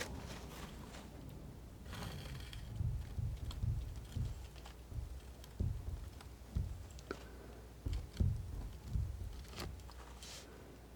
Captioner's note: scratching